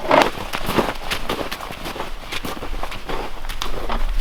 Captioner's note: snow crunching